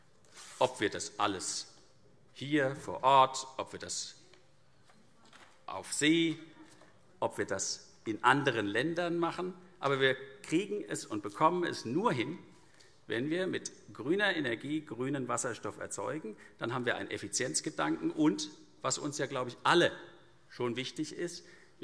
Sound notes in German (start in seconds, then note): none